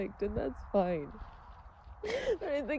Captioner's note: sobs through words